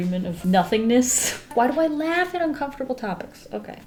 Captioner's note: laughs